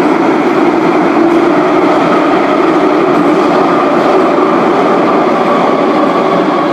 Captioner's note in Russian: торможение - прибытие на станцию